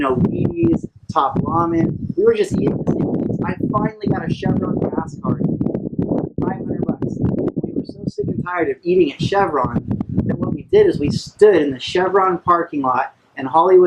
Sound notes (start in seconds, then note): 2.2 wind cutting volume